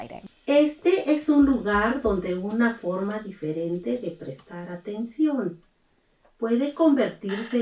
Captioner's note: Spanish